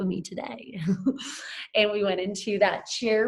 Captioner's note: chuckles